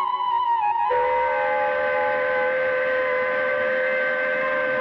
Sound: train Horn Sounding

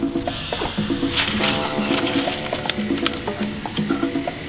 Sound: papers rustling

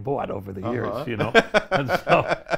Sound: laughs

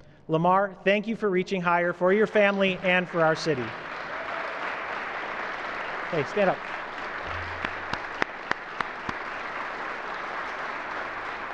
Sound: applause

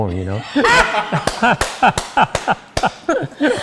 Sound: laughing

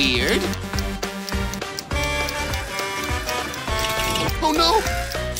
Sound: truck horn honking

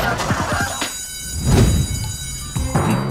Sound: school bell ringing

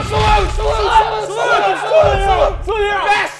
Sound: all shouting "Salute"

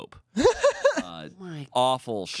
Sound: laughs

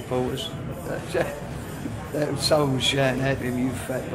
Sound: laughs

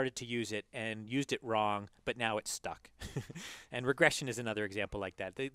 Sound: laugh

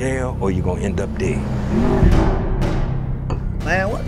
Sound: dramatic sound; tires screeching, noises, banging

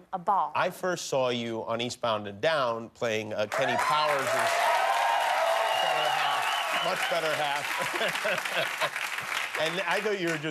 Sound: cheers and applause

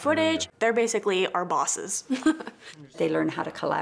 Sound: laughs

